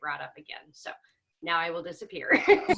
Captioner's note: laughing